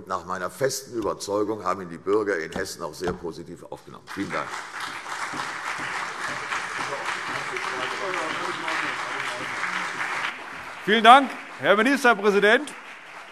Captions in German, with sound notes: Nach meiner festen Überzeugung haben die Bürger in Hessen das auch sehr positiv aufgenommen. - Vielen Dank. [Beifall CDU und BÜNDNIS 90/DIE GRÜNEN] Herr Ministerpräsident, vielen Dank.